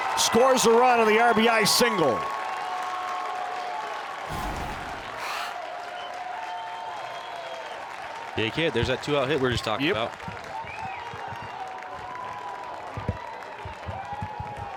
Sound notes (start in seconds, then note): 2.6 fans applauding